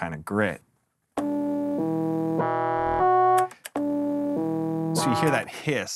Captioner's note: digital tones